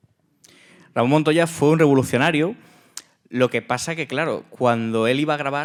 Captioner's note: speaking in Spanish